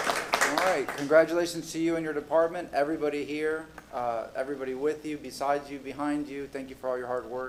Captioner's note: applause